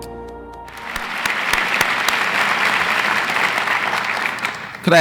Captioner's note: audience applauds